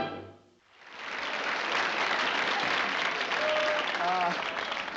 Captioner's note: applause